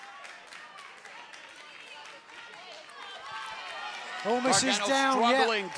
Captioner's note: crowd chatter